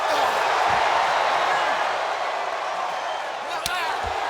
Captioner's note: wrestlers grunting